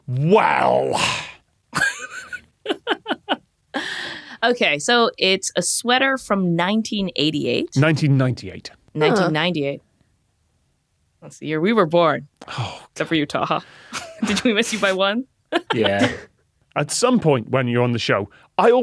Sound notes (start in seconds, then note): 1.7 giggles; 15.6 snickers